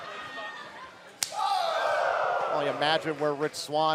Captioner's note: crowd cheering